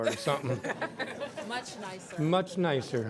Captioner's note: laughter